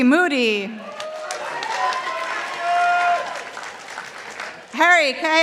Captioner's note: participants applauding